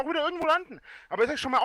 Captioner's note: inhales